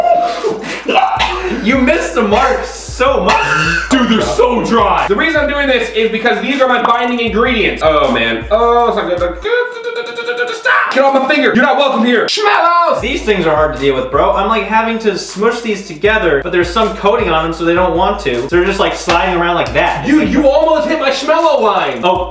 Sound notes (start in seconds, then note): 0.0 laughing; 3.1 coughs